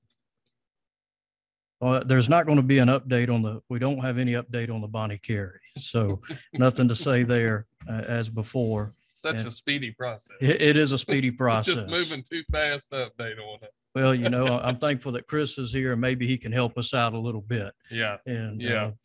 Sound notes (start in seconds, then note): 10.4 laughs